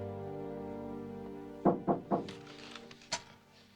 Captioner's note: knocking at door